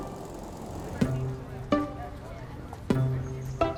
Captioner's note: students talking